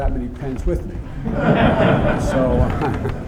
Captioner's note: laughter